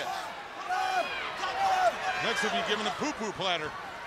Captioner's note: crowd chatter